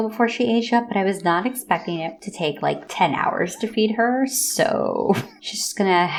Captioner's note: scoff